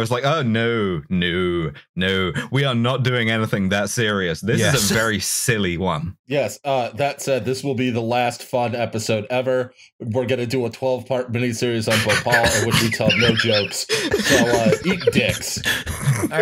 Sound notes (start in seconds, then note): 11.9 laughter